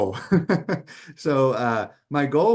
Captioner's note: laughs